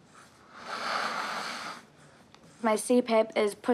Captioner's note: inhales deeply